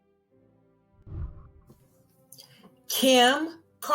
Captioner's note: celebratory music; whooshing